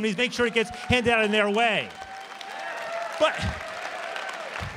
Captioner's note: applause